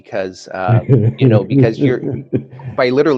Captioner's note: laughs